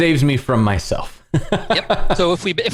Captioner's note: laughter